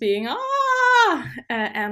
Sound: screaming

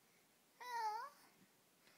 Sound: meow

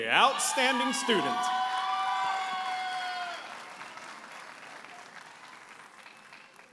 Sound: audience applauding and cheering

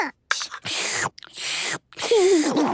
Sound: slurping; giggles

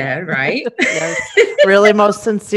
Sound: all laughing

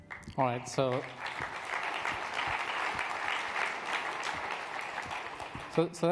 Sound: clapping

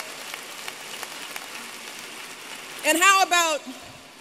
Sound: applause

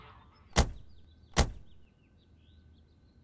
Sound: car door closes

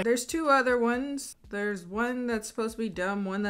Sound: none

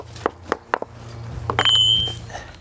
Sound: clinking

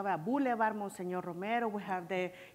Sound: speaking foreign language

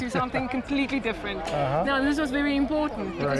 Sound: laughs

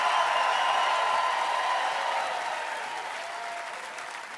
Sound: applause and cheering

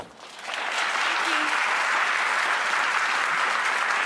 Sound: audience clapping

